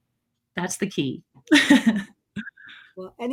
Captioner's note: laughs